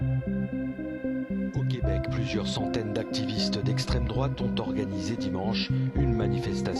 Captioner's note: speaks French